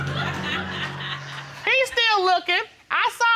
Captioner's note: audience laughing